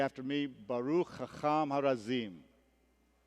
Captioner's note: hebrew